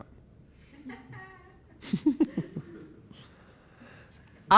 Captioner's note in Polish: śmiech